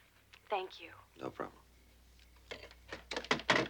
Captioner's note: on phone